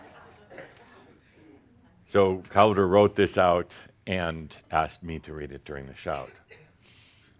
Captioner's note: laughter